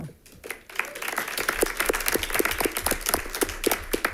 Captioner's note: all clapping